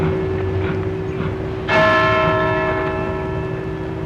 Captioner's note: clock strikes